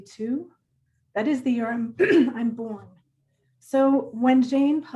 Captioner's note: throat clearing